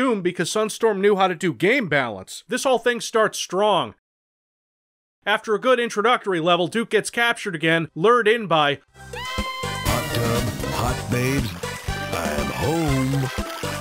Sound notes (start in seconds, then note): 9.0 babes screams